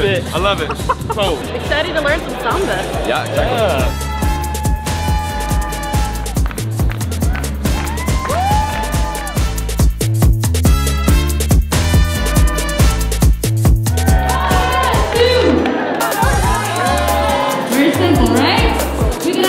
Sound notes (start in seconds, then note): 4.1 upbeat music; 6.3 clapping; 8.9 cheering; 10.1 upbeat music; 16.9 cheering